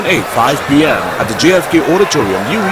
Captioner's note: wild applause and cheering for 22 seconds